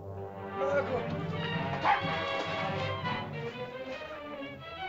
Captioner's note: dramatic music; Ohtao shouts; dramatic music